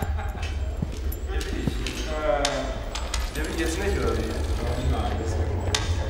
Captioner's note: boots echoing on corridor